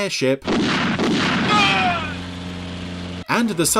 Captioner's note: gun shots